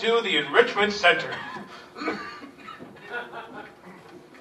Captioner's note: coughing fit